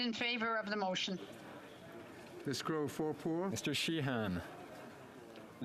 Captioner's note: speaking French